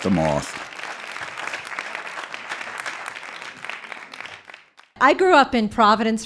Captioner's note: audience applauding